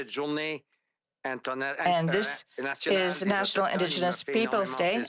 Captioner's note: speaking French